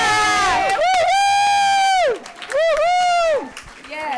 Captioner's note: crowd applauds